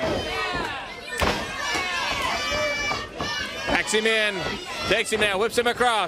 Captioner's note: crowd chatter